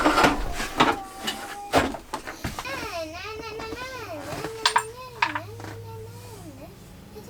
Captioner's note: plastic dragging sound; babbling gleefully